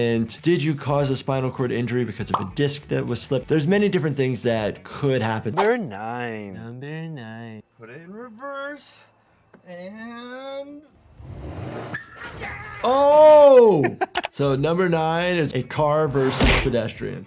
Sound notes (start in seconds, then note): 11.1 vehicle revving; 11.2 tires squealing; 13.3 laughing